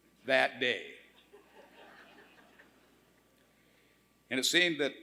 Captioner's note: laughter